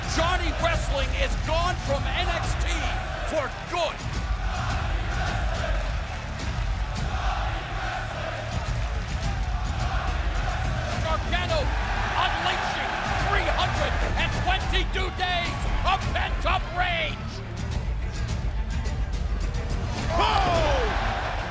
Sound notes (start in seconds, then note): 6.3 crowd cheering